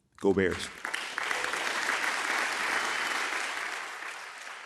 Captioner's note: audience applauding